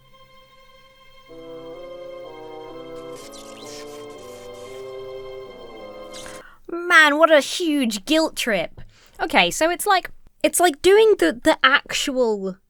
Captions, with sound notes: (electricity crackles) - Man, what a huge guilt-trip. Okay, so it's like doing the actual